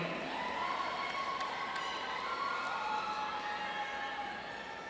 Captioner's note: audience cheering